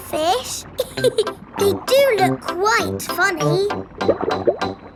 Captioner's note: laughs